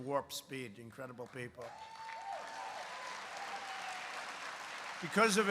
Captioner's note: applause